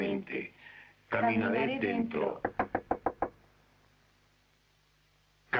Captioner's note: knocking